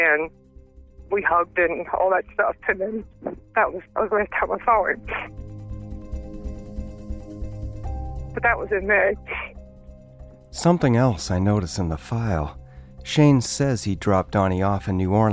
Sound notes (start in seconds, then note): 3.2 chokes up; 7.2 crying